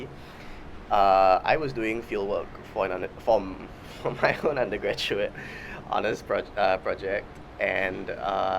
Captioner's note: laughs